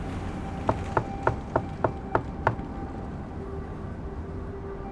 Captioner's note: knocks on door